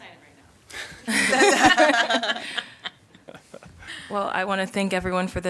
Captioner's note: laughter